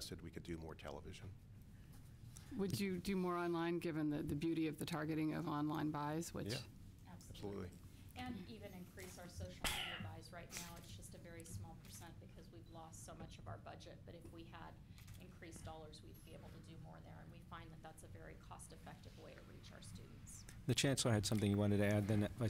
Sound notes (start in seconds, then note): 9.1 off mic